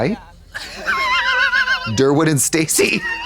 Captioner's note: Katya tee-hees